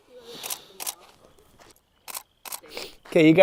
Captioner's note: couple murmurs and talks; click, click, click, click, click, click, click